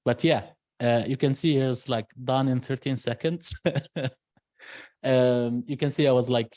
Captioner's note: laughs